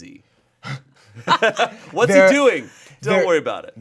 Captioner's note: laughs